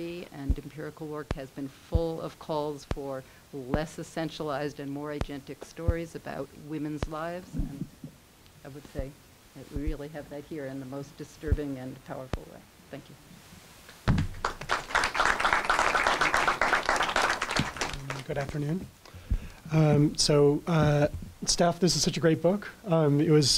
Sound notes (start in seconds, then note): 14.2 applause